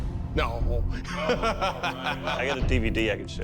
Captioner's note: laughs